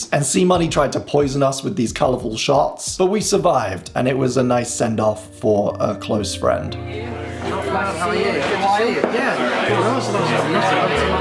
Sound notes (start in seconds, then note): 6.7 people chattering